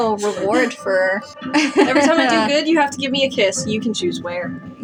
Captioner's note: laugh; chuckle